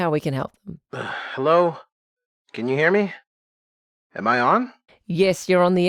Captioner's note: sighs